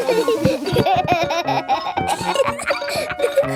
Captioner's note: giggling